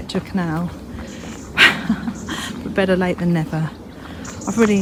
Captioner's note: laughs